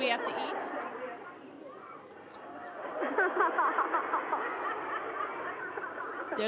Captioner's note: laughter